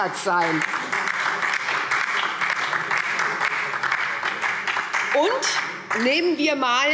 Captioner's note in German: Beifall SPD und DIE LINKE